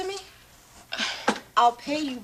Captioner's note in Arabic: تتنهد